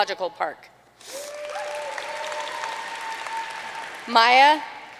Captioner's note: audience cheering and applauding